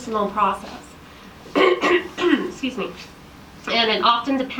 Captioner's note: coughs